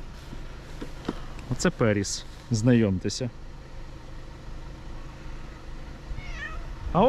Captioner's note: cat meows